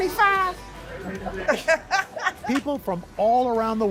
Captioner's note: laughter